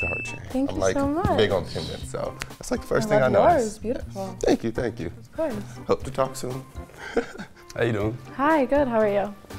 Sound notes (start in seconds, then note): 6.9 laughs